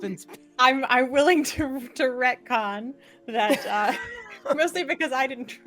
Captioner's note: laughing